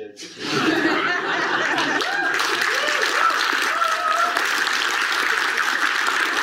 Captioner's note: audience laughs and applauds